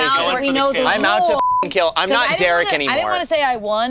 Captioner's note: beep